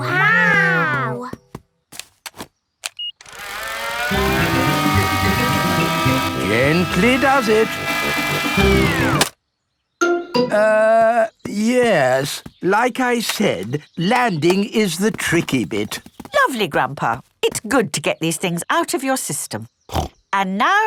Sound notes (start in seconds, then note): 2.8 beeps; 3.2 plane humming; 8.9 humming stops